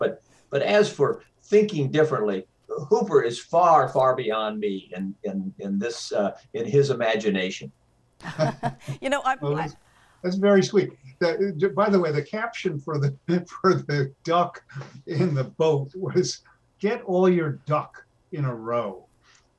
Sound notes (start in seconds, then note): 8.2 laugh; 11.2 laughs